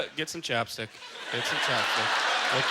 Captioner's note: audience laughter